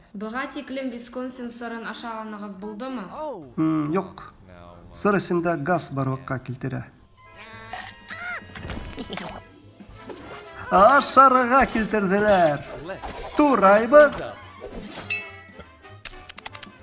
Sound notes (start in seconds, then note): 7.5 evil Laugh; 7.6 biting sound